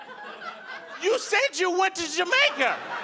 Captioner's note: audience laughing